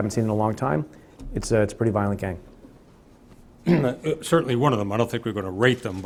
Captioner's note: clears throat